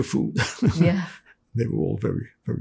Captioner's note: laughing